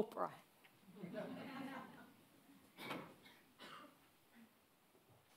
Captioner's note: audience laughing